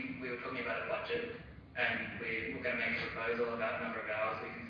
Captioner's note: audio distorts